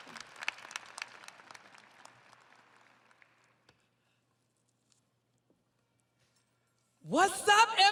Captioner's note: audience applauding